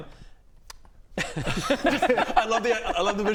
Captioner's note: laughs